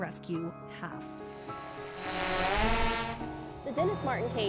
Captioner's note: drone taking off